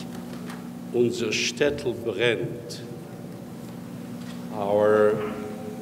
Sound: speaks in foreign language

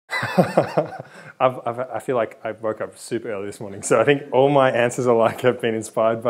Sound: laughs

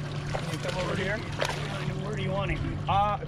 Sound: fish splashing

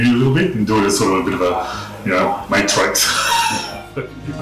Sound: laughs

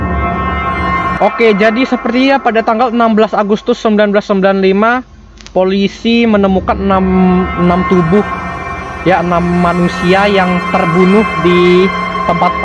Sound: explaining the story in Indonesian

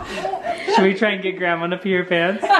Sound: voiceover

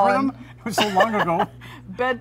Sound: laughs

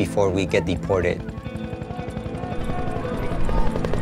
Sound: helicopter blades whirring

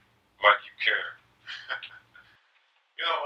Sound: Mr. Sexy laughing

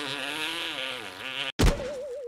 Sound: boing

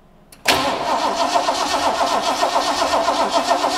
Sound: engine revving

